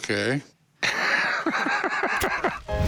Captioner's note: laughs